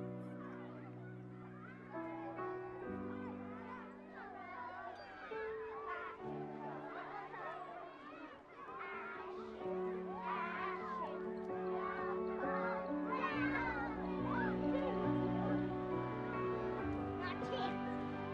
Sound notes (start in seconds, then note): 4.1 children playing outside; 11.8 children playing outside